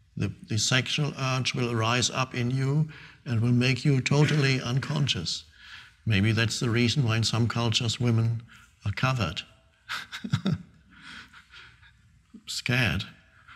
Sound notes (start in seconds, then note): 9.9 Eckhart laughing